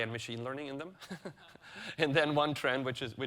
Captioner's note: chuckles